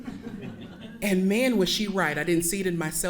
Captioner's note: audience laughing